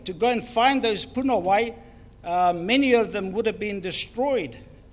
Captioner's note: speaks in foreign language